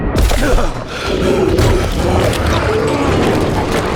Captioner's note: gasping as sound normalizes